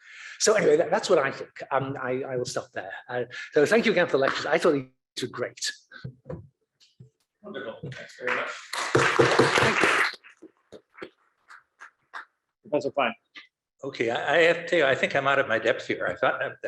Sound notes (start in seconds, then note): 8.2 applause